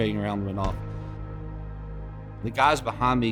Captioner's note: explosive blasting